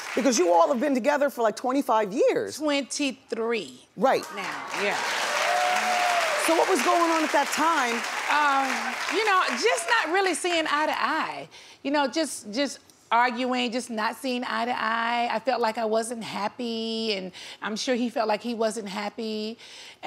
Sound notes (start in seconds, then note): 4.3 audience applauds